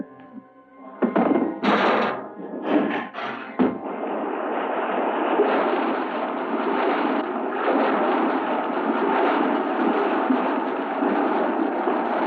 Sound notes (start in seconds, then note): 3.7 waves crashing